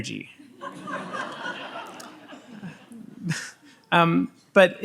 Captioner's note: audience laughs